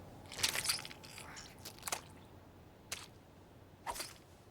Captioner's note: flesh squelches